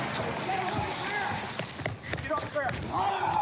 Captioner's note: footsteps running